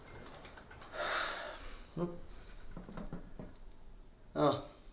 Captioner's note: sighs